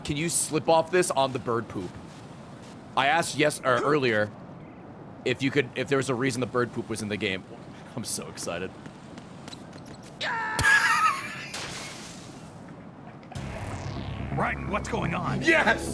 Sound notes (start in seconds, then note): 13.6 laughs